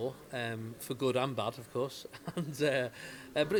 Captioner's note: laughs